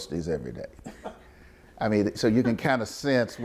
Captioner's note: interviewer laughs